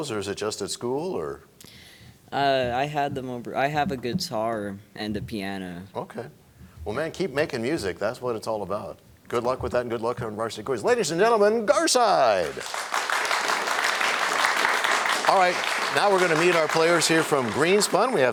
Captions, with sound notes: -Do you have one of each of those or just at school? -I had them-- I have a guitar and a piano. -Okay. Well, man, keep making music. That's what it's all about. Good luck, and good luck on Varsity Quiz. Ladies and gentlemen, Garside! [applause] All right. Now we're gonna meet our players here from